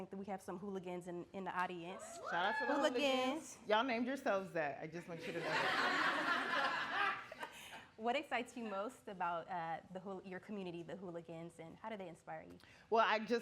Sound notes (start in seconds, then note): 5.3 audience laughing